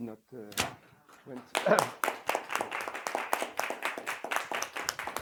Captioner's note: applause